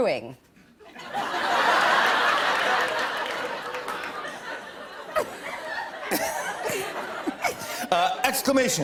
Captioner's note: laughter